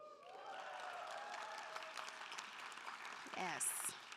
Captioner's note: audience cheering and applauding